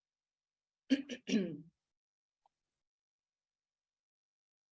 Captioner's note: clears throat